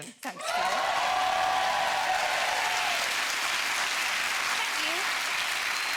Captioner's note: audience cheering; audience applauding